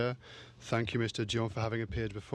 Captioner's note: speaking french